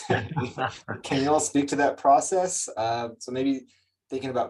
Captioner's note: laughs